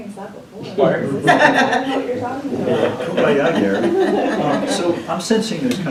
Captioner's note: laughter